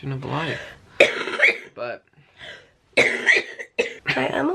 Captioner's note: coughing